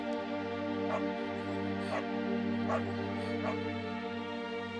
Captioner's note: dog barking